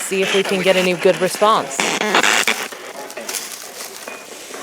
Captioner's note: Leaves crunching and spirit box scanning